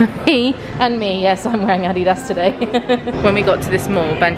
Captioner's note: laughs